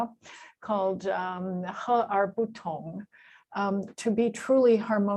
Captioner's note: non-english speech